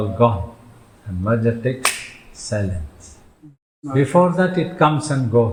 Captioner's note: claps